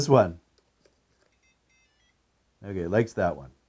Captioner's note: powerbolt beeps